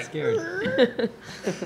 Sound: creaking sound

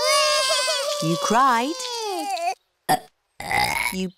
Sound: both bawling; both burping

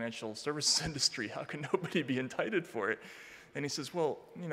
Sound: chuckling

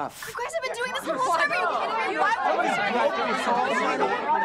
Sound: group arguing

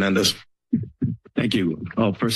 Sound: mic thuds

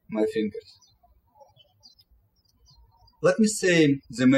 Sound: birds chirping

